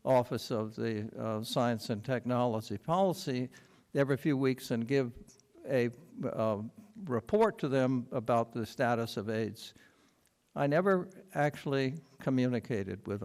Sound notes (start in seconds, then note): none